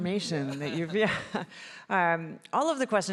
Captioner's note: chuckles